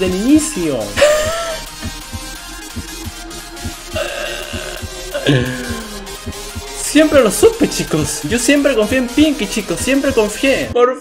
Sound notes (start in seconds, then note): 1.0 laughs